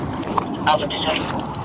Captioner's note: radio chatter